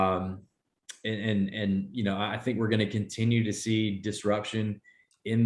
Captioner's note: none